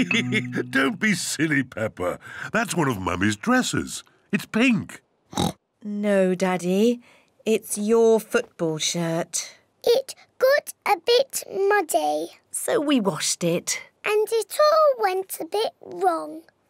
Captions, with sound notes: (LAUGHS) Don't be silly, Peppa. That's one of Mummy's dresses. -It's pink. -(OINKS) No, Daddy. It's your football shirt. It got a bit muddy. -So we washed it. -And it all went a bit wrong.